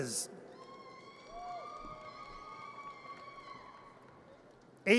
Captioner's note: audience cheers